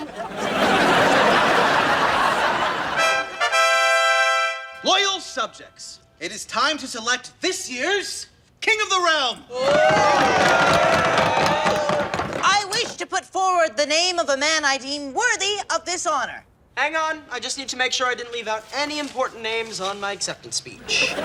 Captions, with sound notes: (audience laughing) (trumpet blaring) - Loyal subjects, it is time to select this year's King of the Realm. (cheering) - I wish to put forward the name of a man I deem worthy of this honor. - Hang on, I just need to make sure I didn't leave out any important names on my acceptance speech.